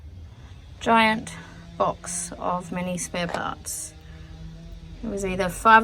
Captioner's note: loud power tool in background is loud